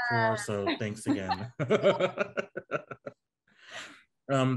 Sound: group laughing

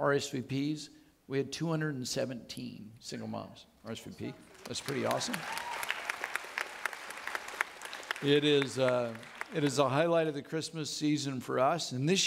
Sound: audience lapping

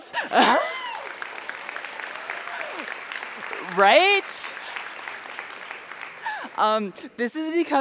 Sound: cheers and applause

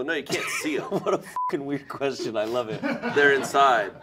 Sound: beeping; laughing

